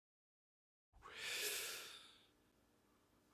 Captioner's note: takes a sharp breath